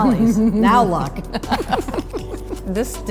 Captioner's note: both laugh